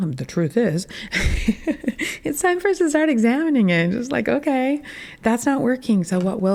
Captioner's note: laughing at self